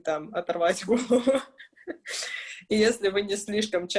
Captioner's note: laughs